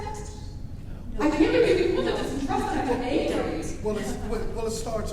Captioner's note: laughs